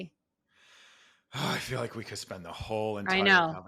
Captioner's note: sighs